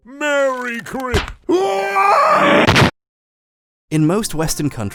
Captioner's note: snaps; screams; booms